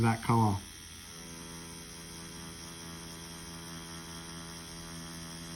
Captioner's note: machine whirring